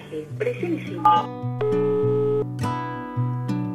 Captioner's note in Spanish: Tono de llamada